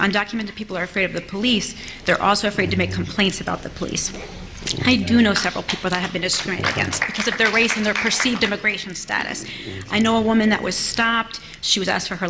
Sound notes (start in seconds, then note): 5.2 applause